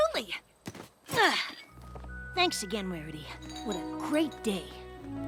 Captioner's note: grunt